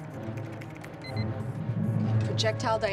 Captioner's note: alarm